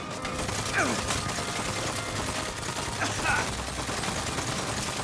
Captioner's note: slow relaxing music; gunshots booming; character grunting; character coughing